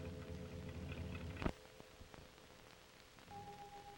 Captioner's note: car rumbling